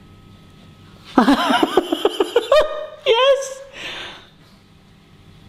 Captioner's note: laughing